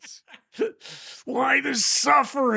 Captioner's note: laughing